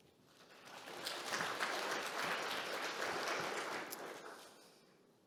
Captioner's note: audience clapping